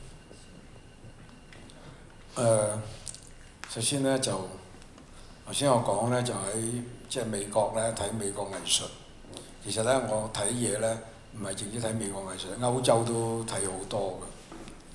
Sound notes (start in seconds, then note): 4.6 Cantonese